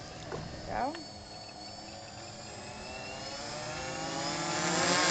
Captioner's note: drone revving